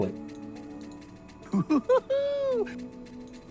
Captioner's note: tigger laugh